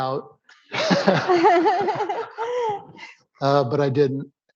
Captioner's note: laughter